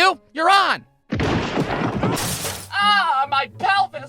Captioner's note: thudding, yelling, crash